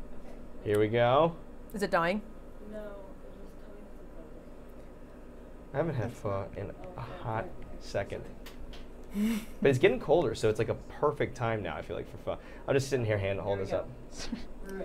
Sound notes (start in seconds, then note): 9.1 Safiya laughing